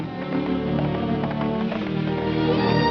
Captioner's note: horse gallops